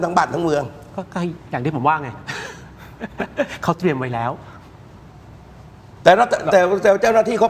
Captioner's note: laughter